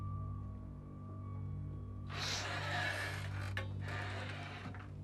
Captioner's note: la porte s'ouvre en grinçant